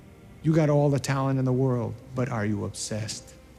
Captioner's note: none